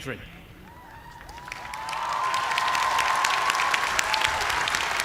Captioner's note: cheers and applause